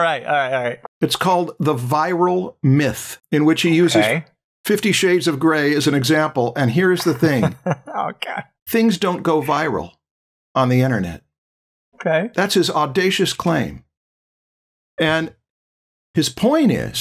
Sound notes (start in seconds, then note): 7.0 laughter